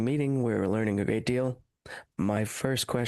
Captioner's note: speaking French